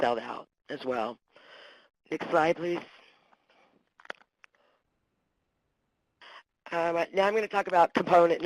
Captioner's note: pause